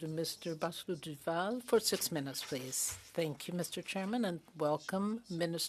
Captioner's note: speaking French